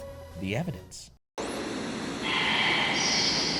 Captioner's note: static buzzing